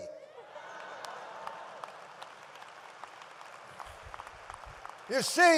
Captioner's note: audience laughs and applauds